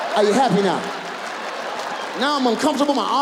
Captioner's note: audience laughs